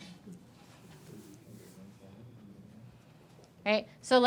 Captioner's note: students chattering faintly